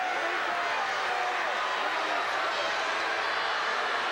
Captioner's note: crowd jeers